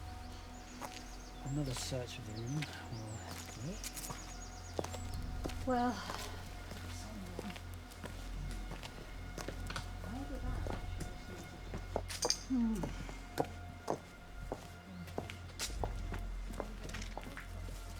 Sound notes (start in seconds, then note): 11.1 feet pattering; 11.1 pensive music continues; 12.8 footsteps plodding; 12.8 pensive music continues